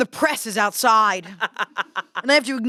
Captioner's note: laughs